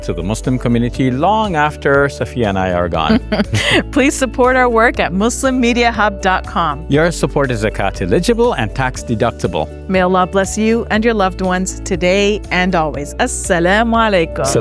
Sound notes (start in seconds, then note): 3.1 both laughing